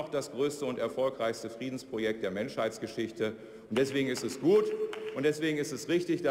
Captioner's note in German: Beifall der Abg